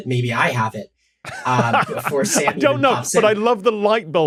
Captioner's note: laughs